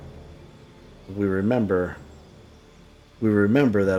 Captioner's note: silence